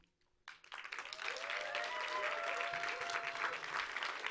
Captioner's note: audience applauds